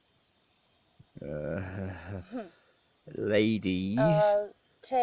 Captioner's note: slow laugh